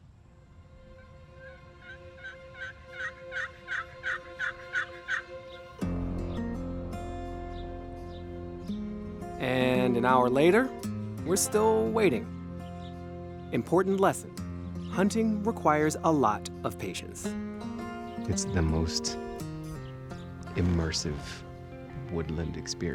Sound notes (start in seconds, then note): 0.9 light country music; 1.8 tool imitates turkey call